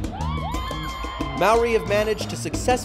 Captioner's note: people cheer